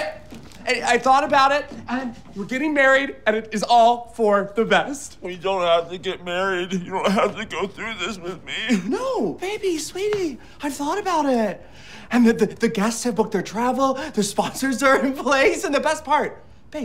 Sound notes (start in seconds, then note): 6.0 sobbing